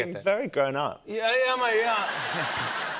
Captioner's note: laughter